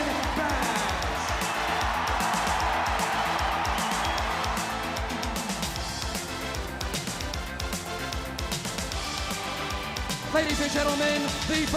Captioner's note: crowd cheering